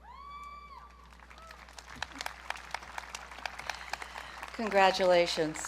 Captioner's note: audience cheering